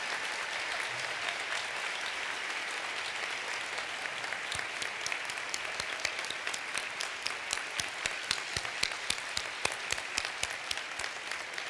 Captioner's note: cheers d applause